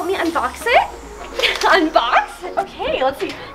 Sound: laughs

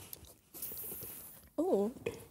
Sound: beverage sizzling

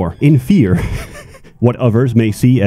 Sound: chuckle

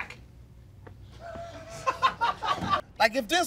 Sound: people laughing

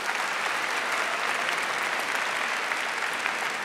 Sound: applause

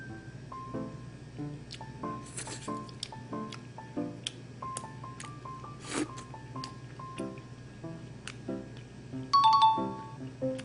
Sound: chewing and slurping

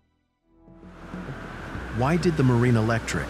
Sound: waves whooshing

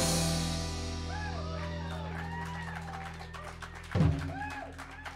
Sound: aplausos; applause

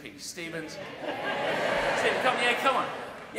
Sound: audience 'yes'

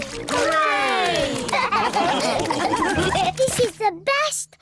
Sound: all laugh

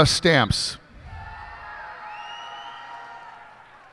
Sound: cheers and applause

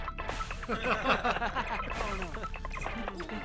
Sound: laughing

